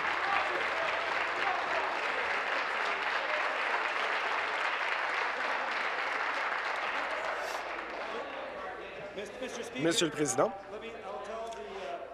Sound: applause

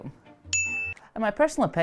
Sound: bell dinging

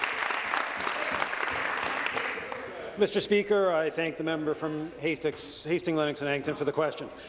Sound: applause

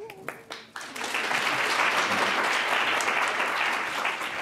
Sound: audience applauding

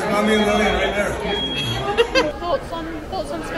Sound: laughing

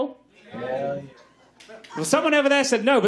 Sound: audience agrees

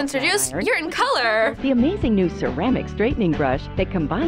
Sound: voice-over

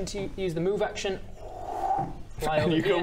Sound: whoooooo

